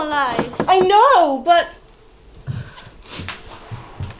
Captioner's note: knock at door